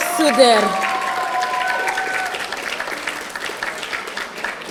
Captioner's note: audience applauding